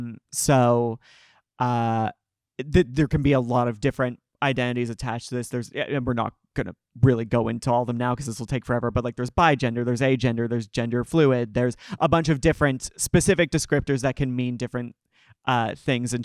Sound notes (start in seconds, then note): none